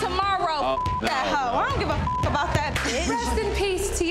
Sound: beep

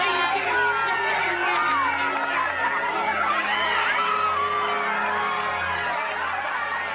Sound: cheering

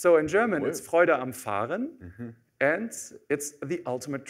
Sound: german

